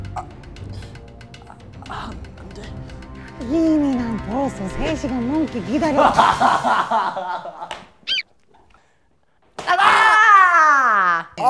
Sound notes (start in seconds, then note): 6.0 cracking up; 9.7 yelling